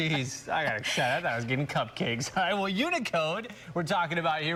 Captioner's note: laughter